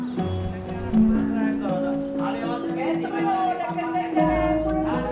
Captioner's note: chattering